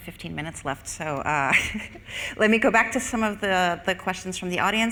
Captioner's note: laughs